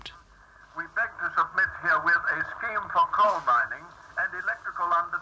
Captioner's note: voice on radio